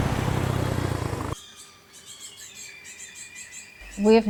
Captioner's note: birdsong